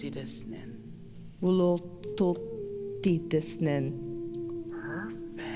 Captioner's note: In Mi’kmaq